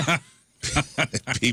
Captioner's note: laughing